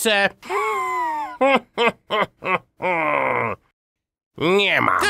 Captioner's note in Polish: śmiech Wala